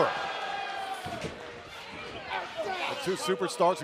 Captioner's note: crowd cheering